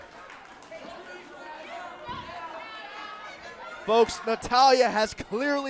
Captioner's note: crowd chatter